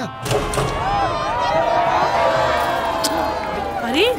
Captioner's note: People rejoicing